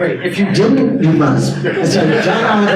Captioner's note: attendees laugh